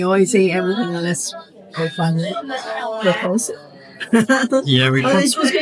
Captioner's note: laughs